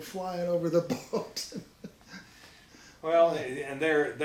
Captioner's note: laughs